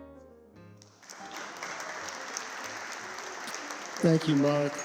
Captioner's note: upbeat jazz music; audience clapping